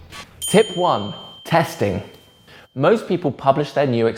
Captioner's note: bell dings